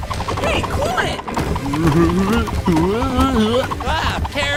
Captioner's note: headphones ad noise